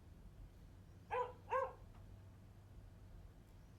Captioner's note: dog barking continues